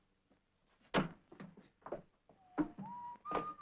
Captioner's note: Harry whistles